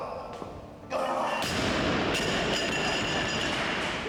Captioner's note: weights clanking